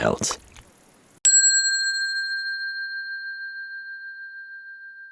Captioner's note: bell ringing